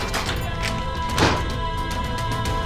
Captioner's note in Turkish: Kapı çarpma sesi